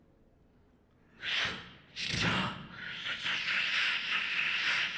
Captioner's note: beatboxing